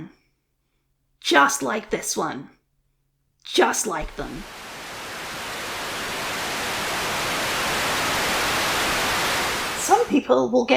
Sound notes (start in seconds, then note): 3.5 Static